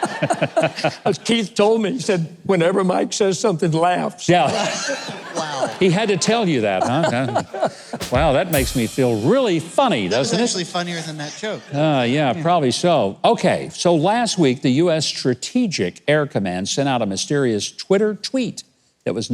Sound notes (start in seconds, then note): 0.0 everyone laughing; 4.4 audience laughing; 6.8 laughing